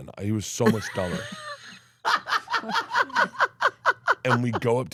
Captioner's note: laughs